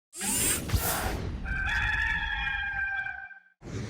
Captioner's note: logo whooshing